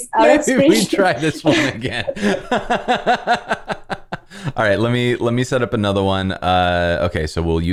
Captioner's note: laughter